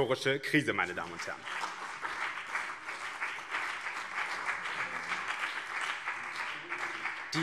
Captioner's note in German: Beifall BÜNDNIS 90/DIE GRÜNEN und CDU